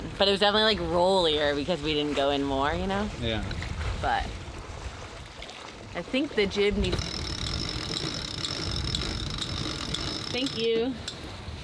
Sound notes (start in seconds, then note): 6.9 metal rattling